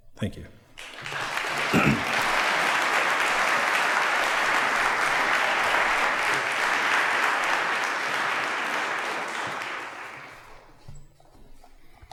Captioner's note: applause